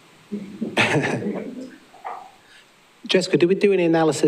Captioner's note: laughing